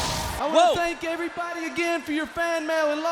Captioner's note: crowd chatter